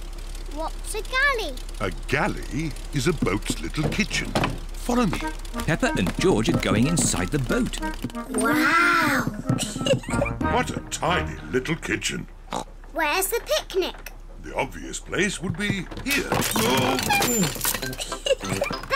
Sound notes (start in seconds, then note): 12.4 oinks; 17.8 giggles